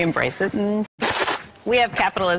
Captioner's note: hisses